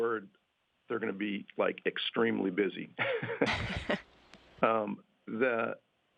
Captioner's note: laughter